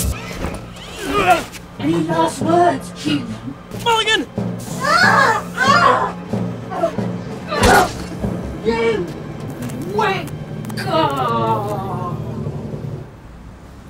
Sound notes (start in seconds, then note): 4.6 howling